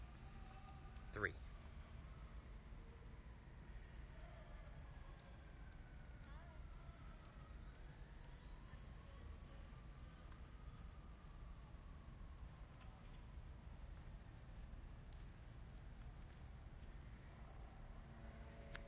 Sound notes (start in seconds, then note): 4.7 people chattering